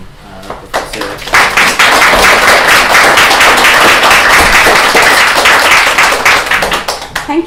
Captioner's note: applause